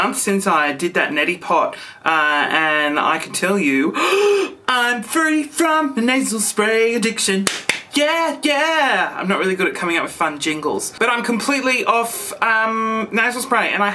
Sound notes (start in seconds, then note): 4.0 gasps